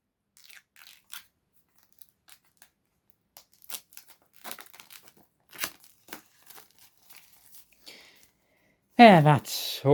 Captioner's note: unwrapping the sealed plastic